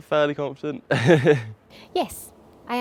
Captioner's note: laughs